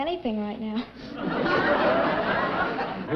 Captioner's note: chuckling